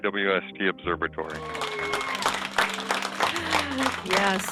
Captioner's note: group applauding